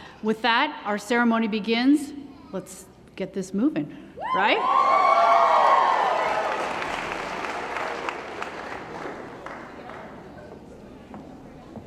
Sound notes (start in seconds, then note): 4.3 cheering & Applause; 5.3 applause